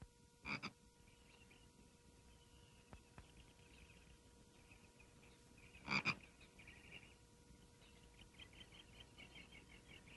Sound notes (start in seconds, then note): 0.4 frogs croaking; 3.5 birds chirping